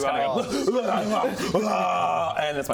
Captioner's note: hrghgwragahrghh; hyraaaaaaaaaaaagh